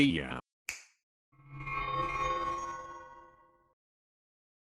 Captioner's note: a snap and magic sounds